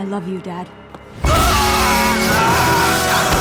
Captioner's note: screaming